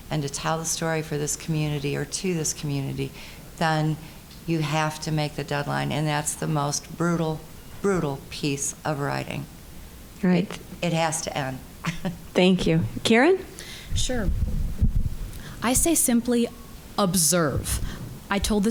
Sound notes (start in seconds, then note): 11.8 chuckling